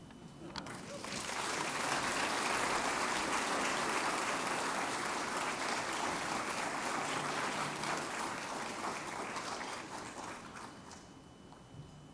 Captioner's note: applause